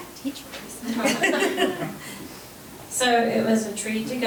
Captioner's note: board members laughing